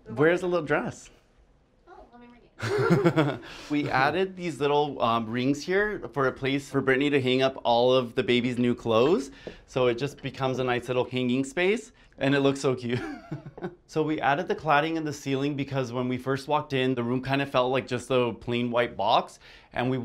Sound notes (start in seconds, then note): 2.6 laughs; 12.9 laughs